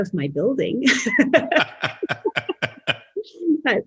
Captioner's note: laughs